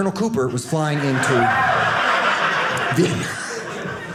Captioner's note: audience laughing